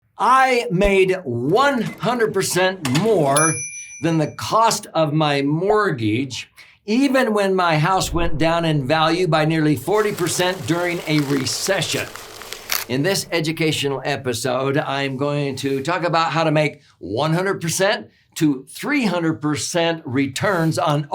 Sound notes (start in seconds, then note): 3.2 cash register dinging; 9.8 papers crinkling